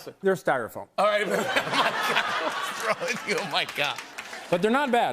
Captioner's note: laughter